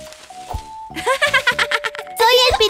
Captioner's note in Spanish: Risas